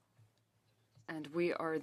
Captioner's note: speaking French